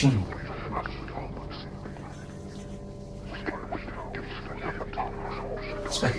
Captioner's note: mysterious whispering voices